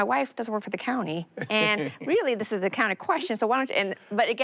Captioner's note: laughs